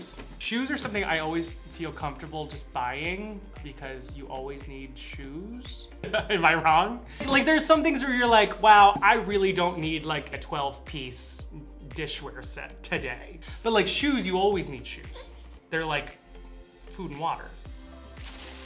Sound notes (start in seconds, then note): 5.4 laughing